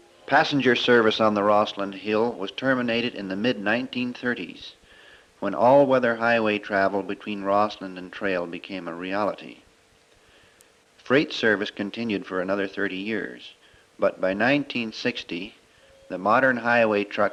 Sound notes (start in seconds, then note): none